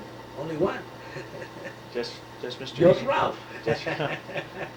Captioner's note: laughs; laughs